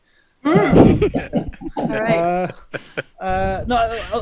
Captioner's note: all laugh